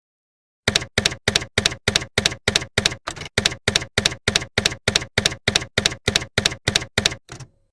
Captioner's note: typewriter keys clacking